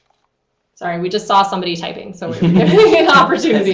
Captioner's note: speakers laughing